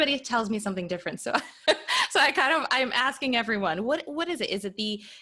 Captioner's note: chuckles